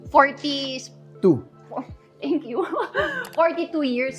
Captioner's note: chuckles